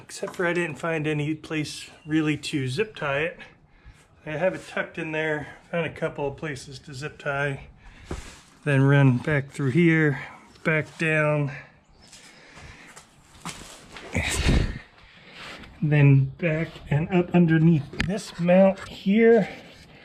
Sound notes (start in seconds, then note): none